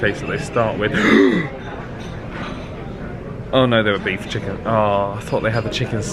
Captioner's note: gasps